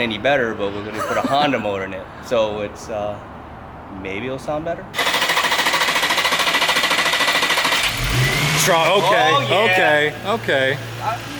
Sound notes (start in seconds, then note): 4.9 engine starting up